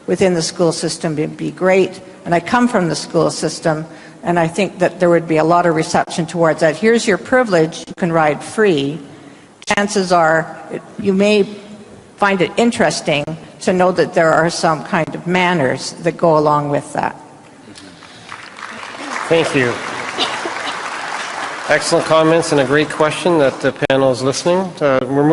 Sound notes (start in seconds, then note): 18.0 applause